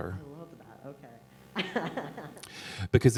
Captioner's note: laughter